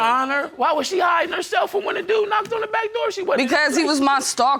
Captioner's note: none